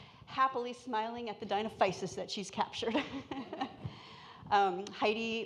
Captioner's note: laughs